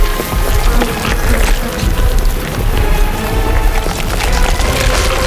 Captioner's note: flesh squelching